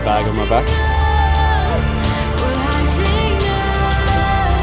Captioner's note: laughing